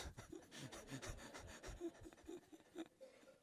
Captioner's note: laughs